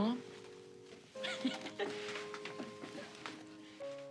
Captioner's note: Olaf laughs